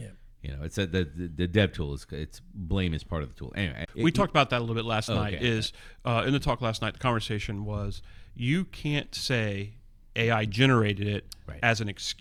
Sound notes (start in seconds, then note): 5.0 uh